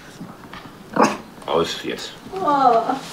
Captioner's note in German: Knurren